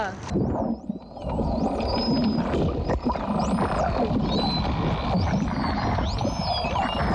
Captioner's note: Actual sound of dolphins off the coast of Moseulpo